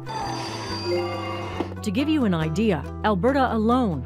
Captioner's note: machine bells chime